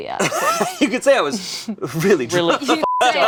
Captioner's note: beep